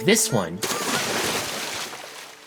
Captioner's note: splashing